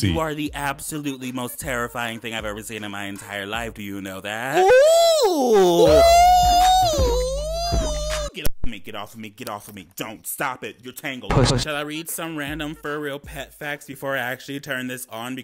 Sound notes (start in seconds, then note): 4.5 man yelling